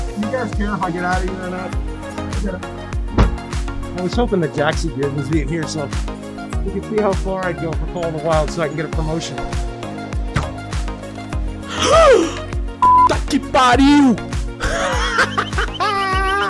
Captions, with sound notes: You guys care if I get out of here or not? I've gotta... I was hoping that JaxyBeard would be in here so... he could see how far I'd go for Call of the Wild so I can get a promotion. [GASP] Holy crap! [LAUGHING]